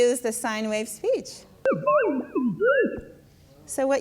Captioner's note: voice speaks distorted, machine-like speech